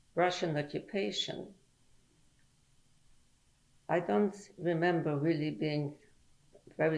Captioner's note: pauses for 3 seconds